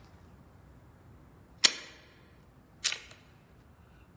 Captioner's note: gun clicking